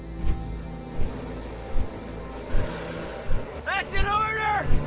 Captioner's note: snake-like hissing